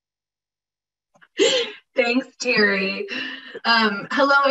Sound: laughs

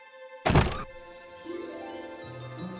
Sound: birds chirp

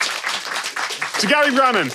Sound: audience clapping

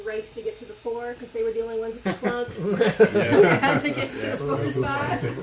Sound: all laugh

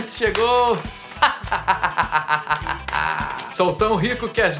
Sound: laughter of a millionaire man

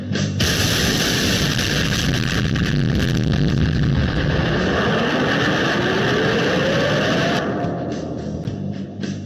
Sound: explosion

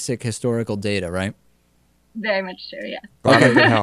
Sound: laughs

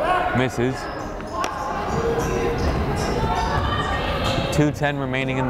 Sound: crowd chattering

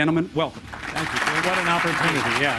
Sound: audience applauding

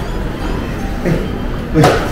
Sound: laughs

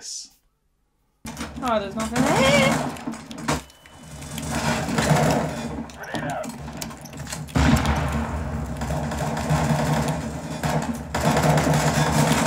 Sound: gunshots

